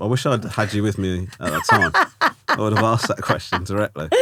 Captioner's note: laughing